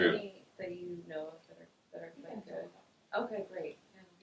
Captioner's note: muffled chatter